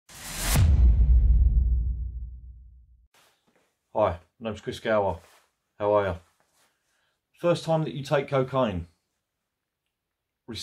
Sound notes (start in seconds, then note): 0.1 logo swishing; 0.2 dramatic tune